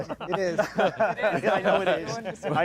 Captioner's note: panelists laughing